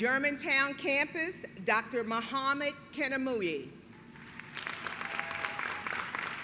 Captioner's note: clapping